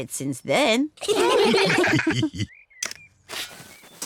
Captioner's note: all laugh